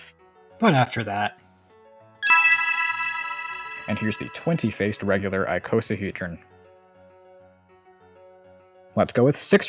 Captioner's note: ding